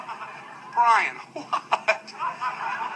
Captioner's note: more painful laughing